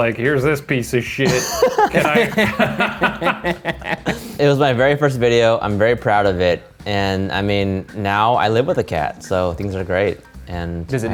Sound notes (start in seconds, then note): 1.2 all laughing